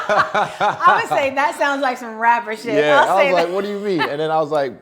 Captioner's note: both laughing